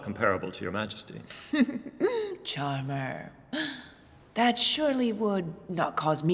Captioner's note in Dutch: giechelt